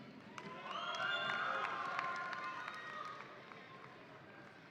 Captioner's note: audience applauding